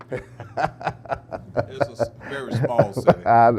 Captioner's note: laughing